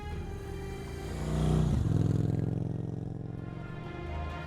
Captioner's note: gentle music; motorcycle engine rumbles; majestic music